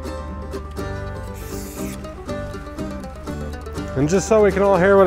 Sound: upbeat music; paint spray on the ground

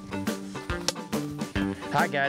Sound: whack

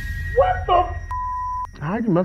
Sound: suspenseful dramatic music; beep

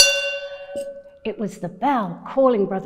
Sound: bell ringing

